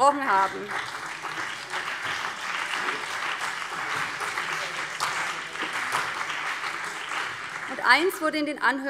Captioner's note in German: Beifall BÜNDNIS 90/DIE GRÜNEN und CDU